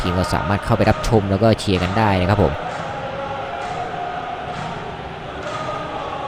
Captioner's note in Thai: ปรบมือ